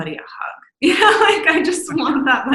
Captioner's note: laughs